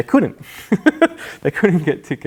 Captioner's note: laughing